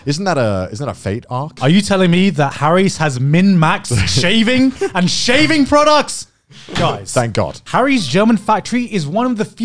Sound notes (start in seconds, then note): 1.4 all laugh